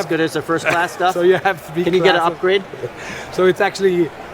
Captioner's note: laughing